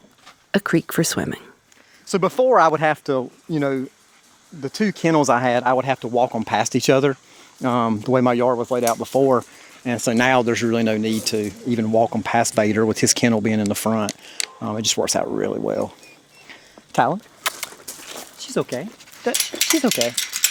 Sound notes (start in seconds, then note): 15.9 Talon whines